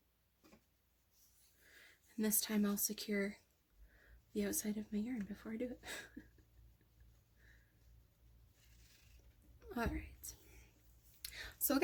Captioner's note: chuckles